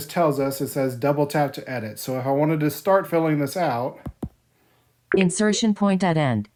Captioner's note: beep